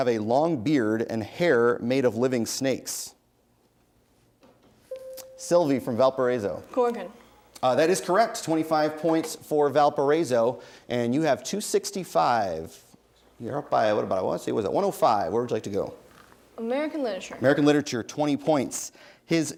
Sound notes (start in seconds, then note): 4.9 bell rings